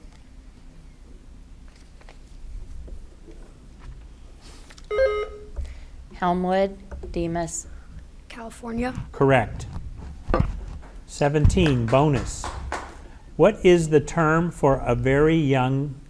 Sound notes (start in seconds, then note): 4.1 button buzzing